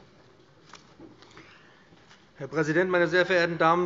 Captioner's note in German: none